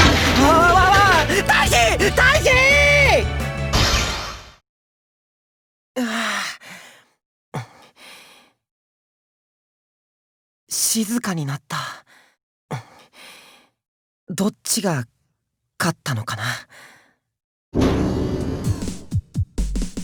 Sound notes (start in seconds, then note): 7.5 sigh; 7.6 silence; 12.7 silence